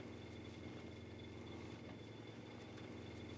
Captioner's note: even humming